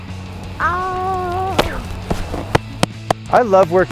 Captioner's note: claps